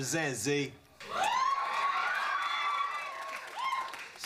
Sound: audience applauds

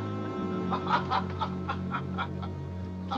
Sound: laughing continues

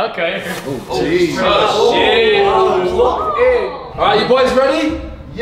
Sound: swooshing sound

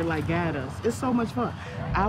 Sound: group talking

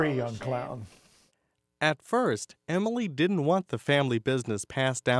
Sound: voiceover

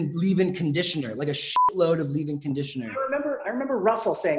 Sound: beep

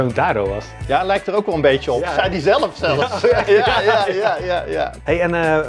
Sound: laughs

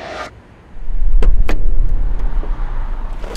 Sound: ominous music; car door opens

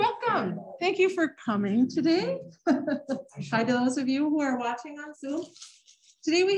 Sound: laughter

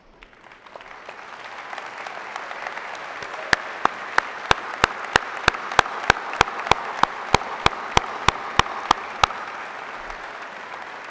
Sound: applause

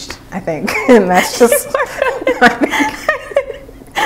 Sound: laughing

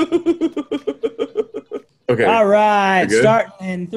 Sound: laugh

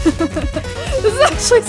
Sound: laughs

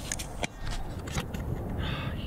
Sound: metallic pop

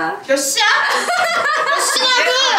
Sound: laughing

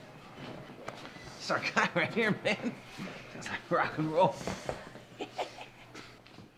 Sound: laughter

